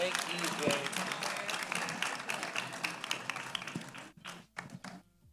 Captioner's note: audience applauding